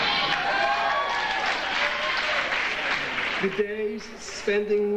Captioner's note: audience applauding